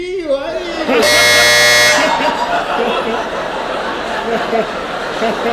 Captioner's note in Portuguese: campainha